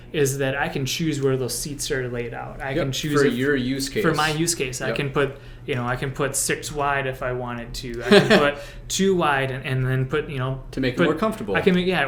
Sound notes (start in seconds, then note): 8.0 laughs